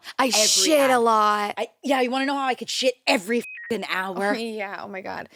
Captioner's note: beep